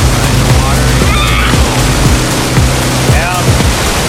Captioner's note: screams